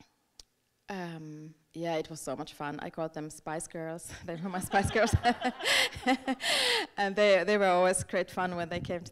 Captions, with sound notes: Yeah, it was so much fun. I called them Spice Girls. They were my Spice Girls. (group laughing) And they were always great fun when they came